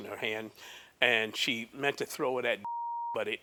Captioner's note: beep